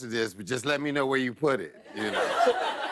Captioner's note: laughter